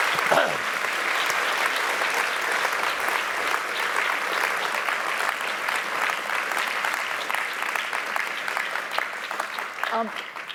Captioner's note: applause